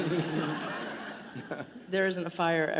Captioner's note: laughter